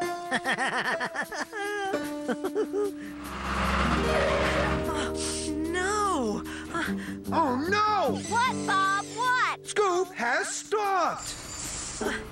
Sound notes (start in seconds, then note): 0.3 Spud snickers; 3.1 brakes squeal